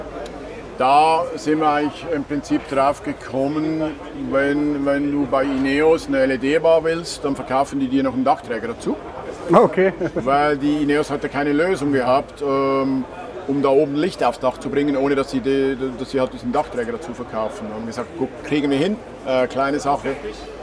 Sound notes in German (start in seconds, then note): 9.7 lacht